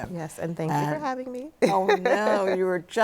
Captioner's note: laughs